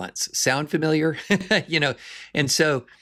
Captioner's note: laughs